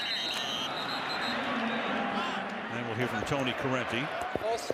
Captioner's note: whistles